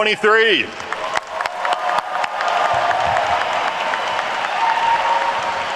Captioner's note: attendees cheer and clap